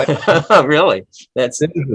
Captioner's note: laughs